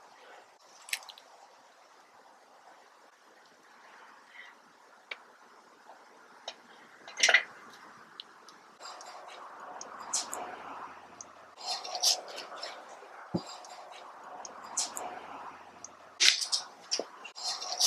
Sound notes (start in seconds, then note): 1.2 silence; 8.6 bike sounds as woman leaves; 12.9 Landen chuckles to himself; 15.7 crunching leaves under feet